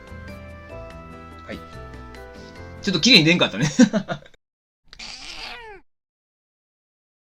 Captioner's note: laughs